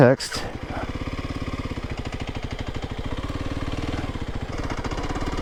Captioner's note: bike engine revving